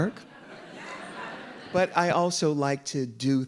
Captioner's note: audience laughing